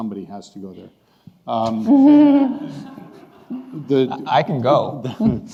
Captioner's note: laughing